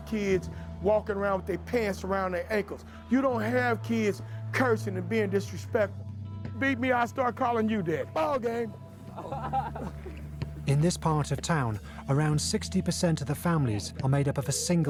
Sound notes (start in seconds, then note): 10.7 both laughing